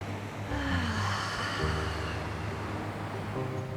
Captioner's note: sigh